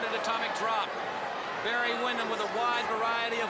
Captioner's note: crowd chatter